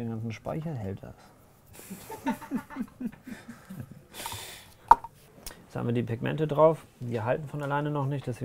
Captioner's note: laughter